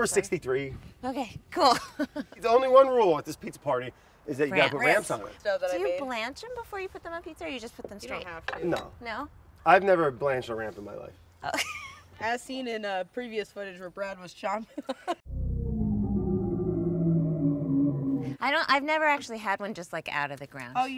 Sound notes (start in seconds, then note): 11.5 laughs; 15.2 ominous music